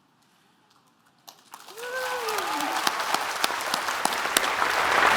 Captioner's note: applause